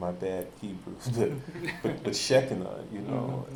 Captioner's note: chuckles